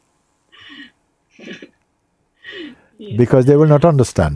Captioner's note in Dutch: Vraagsteller lacht